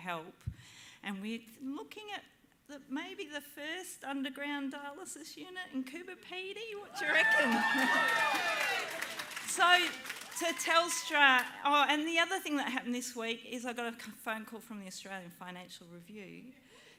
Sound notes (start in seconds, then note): 6.8 cheering and applause